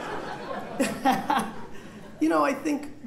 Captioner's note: laughter